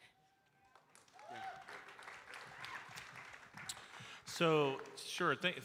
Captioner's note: audience cheering and applauding